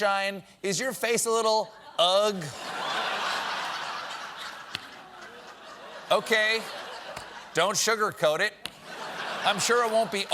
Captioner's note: laughter